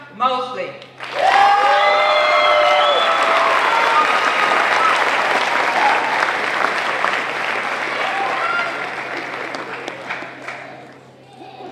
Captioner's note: applause